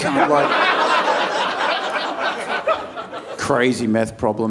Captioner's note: audience laughing